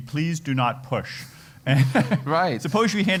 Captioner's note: laugh